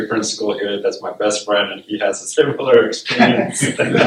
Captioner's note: laughter